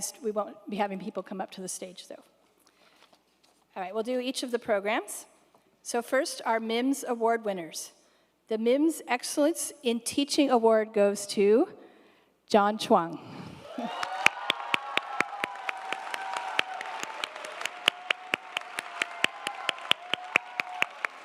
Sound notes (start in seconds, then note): 13.7 audience applauding